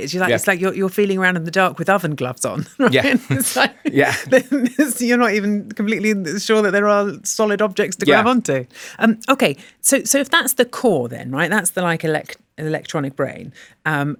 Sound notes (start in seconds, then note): 2.7 laughs